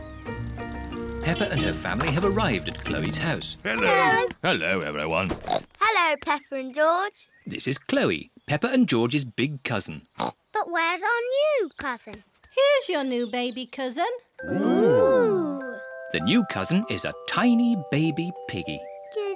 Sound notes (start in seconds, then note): 10.1 oinks